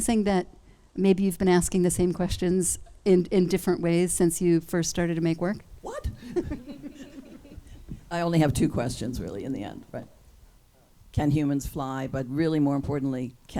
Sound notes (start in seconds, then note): 6.0 group laughs